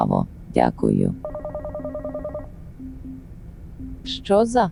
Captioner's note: phone ringing inside the stomach